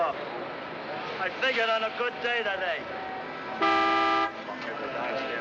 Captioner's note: horns Honking